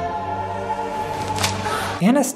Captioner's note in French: Smack !